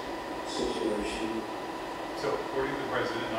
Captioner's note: indistinct chatter